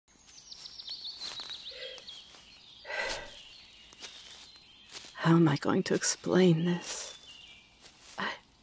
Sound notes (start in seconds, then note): 2.1 forest sounds, walking